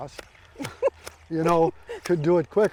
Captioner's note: clippers snipping rapidly; laughs